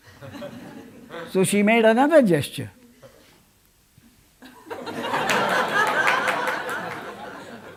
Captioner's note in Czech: smích